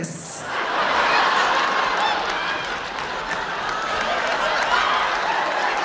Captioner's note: audience laughing; audience applauding